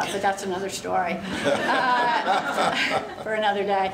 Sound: laughter

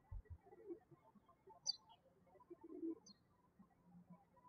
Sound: birds chirping

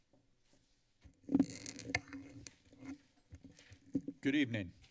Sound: mic cracking

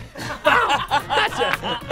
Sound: quack; laughter

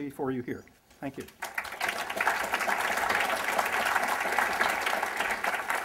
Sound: applause

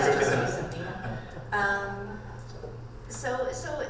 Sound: panel and audience laughing

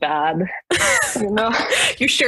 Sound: laughter

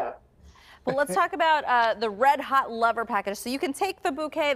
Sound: laughter

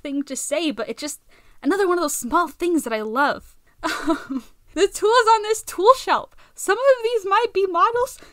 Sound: excited laugh

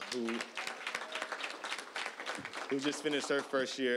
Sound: applause

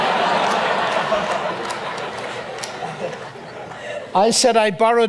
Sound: audience laughs

